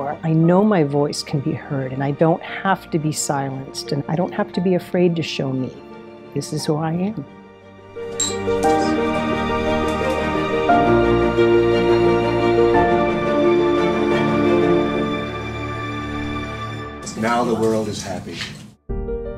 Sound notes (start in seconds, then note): 8.1 glasses clinking; 10.8 dramatic music